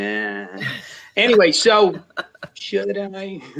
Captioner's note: laughs